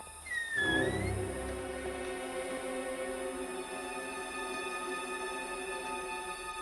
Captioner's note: door creaking; tense music